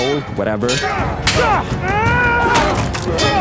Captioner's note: screams